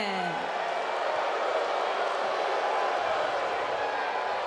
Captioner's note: crowd jeering